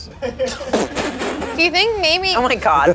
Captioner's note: laughs